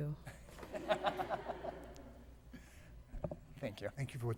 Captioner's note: laughter